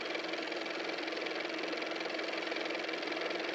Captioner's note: car motor